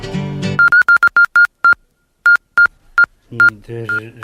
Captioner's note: morse signal